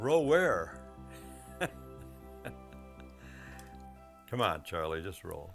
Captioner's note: chuckling